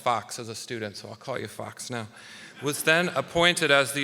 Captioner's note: audience laughing